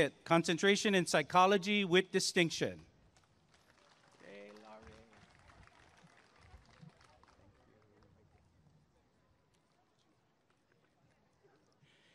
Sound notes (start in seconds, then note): 3.2 applause and cheering